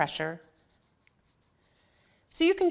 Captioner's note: pencil scribbling